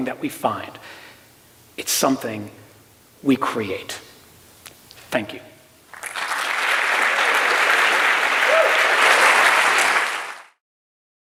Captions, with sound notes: that we find. It's something we create. Thank you. [APPLAUSE]